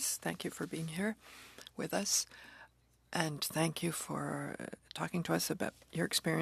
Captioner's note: speaking French